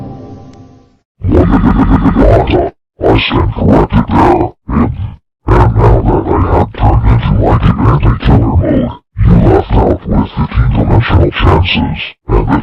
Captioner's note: evil Laughter